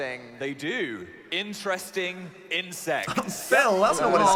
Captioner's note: chuckling